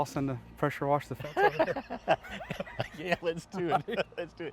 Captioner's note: laughs